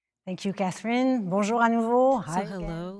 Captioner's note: speaking French